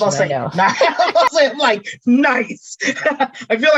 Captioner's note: laughing